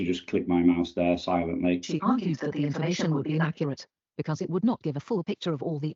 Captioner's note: computer speaks